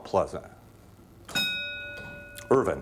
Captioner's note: ding